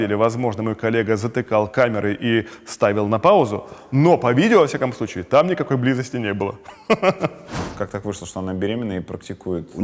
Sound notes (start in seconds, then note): 6.6 chuckles